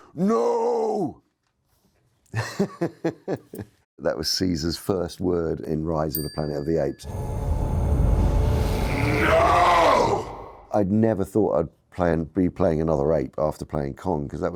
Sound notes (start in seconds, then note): 2.3 Andy laughs